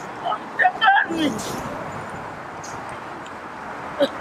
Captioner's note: crying